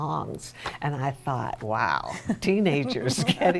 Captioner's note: chuckling